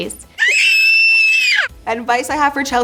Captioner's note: screaming